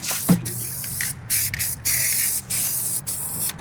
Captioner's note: seductive paint sounds